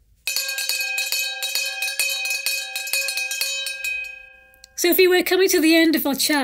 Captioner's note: bell ringing